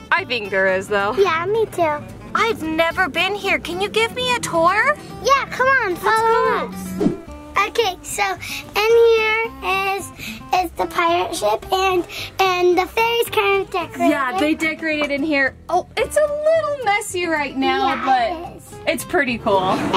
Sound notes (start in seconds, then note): 6.7 air whooshing